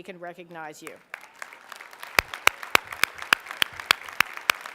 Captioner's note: applause